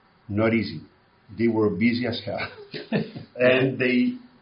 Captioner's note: laughs